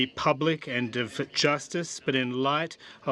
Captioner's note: speaking French